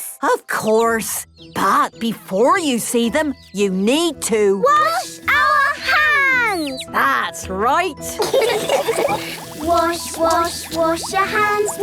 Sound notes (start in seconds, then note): 8.2 all laughing